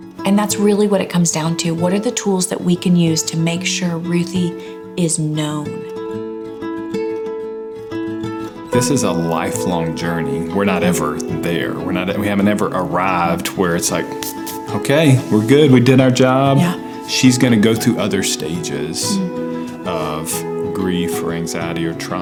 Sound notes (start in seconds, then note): 5.9 soft music; 13.8 rubbing hands; 22.0 soft music